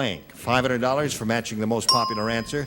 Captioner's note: bell dings